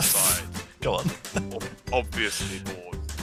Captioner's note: laughing